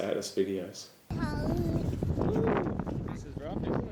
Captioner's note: air rushing; speaking faintly